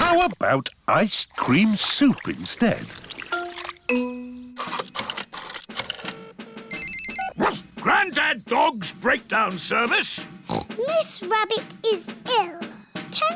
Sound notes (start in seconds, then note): 4.8 line rings; 7.4 barks; 10.4 snorts